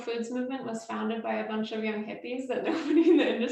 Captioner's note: laughs